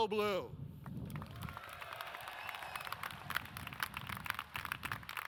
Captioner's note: audience cheers